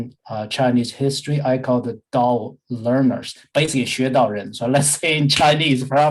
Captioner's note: speaking in Mandarin